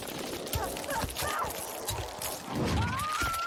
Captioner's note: fighter 2 groans; fighter 2 screams